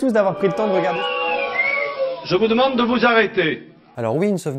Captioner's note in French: sifflements de mécontentement